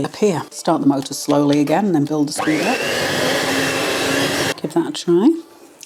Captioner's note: cake mixer whirring